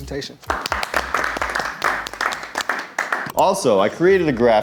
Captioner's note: people clapping